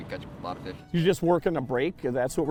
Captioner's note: voiceover